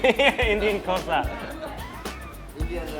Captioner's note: laughing